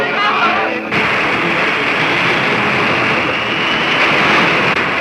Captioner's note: people panicking; rushing water